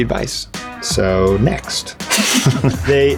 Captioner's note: laughs